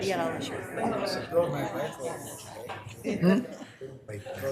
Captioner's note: members chattering